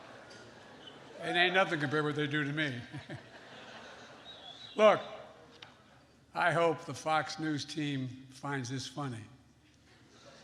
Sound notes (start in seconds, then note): 0.0 laughter; 2.9 laughs